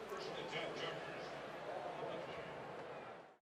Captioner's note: pa announcement